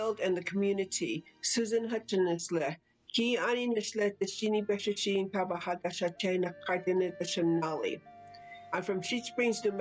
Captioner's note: non-english speech